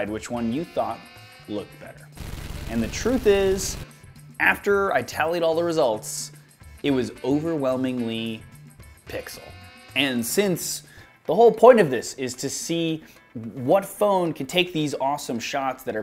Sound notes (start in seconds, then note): 2.2 gunshots